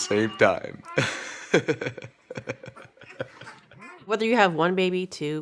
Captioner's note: laughs